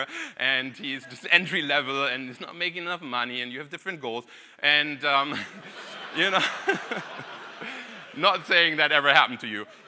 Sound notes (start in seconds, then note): 0.6 audience laughing; 5.2 audience laughing